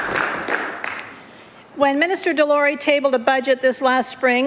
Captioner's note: applause